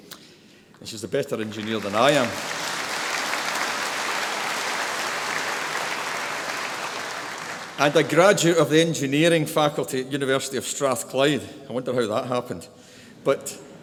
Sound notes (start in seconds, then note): 1.3 applause